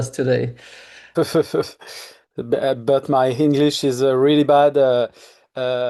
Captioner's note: chuckles